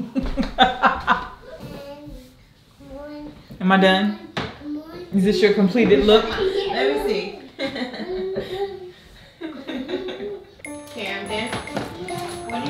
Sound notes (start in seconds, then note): 7.5 laughing